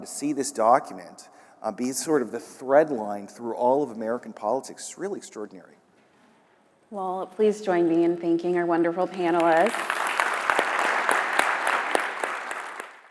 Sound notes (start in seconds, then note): 9.3 audience applauds